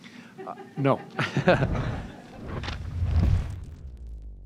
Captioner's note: laughs